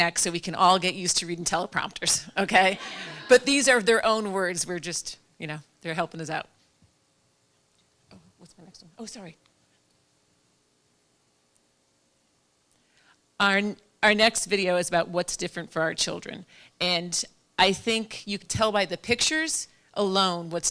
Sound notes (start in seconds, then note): 2.6 laughter